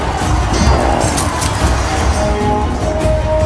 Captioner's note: clink-clink